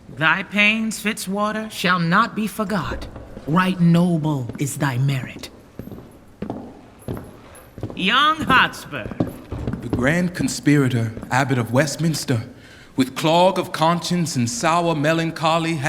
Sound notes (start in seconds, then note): 5.6 footsteps approaching